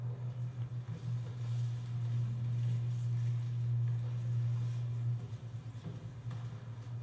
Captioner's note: quiet rustling